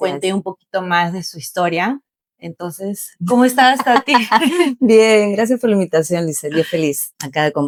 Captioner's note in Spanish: risas